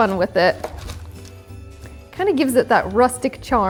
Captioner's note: light music continues; toffee crunching